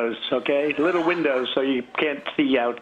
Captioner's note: laughter